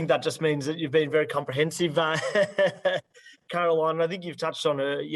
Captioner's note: laughs